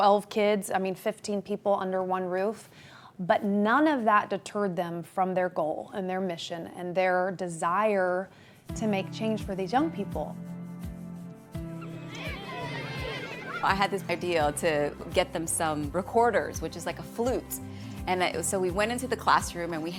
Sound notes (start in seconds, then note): 11.0 upbeat music; 11.8 children shouting